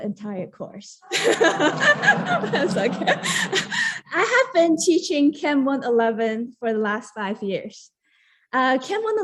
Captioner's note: laughter